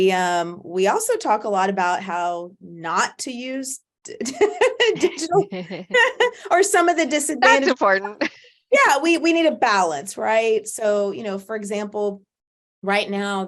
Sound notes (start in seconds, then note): 4.6 laughs; 7.4 laughs